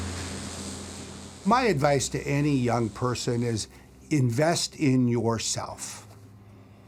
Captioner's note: fire hissing; soft dramatic music